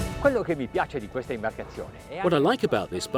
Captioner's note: speaking in foreign language